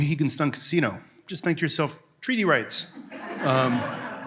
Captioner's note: laughter